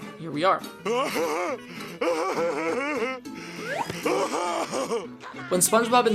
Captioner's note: laughing intermittently